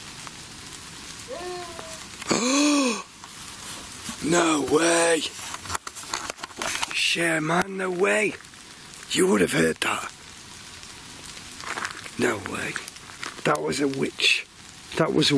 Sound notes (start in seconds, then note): 1.2 wailing; 2.2 gasping